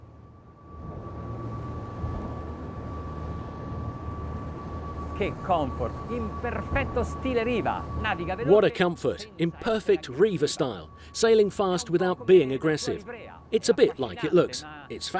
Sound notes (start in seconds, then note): 1.3 boat engine whirs; 5.8 speaking in foreign language